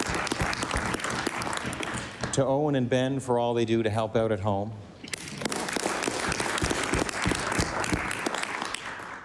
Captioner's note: applause; applause